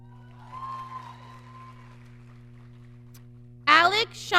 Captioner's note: audience cheering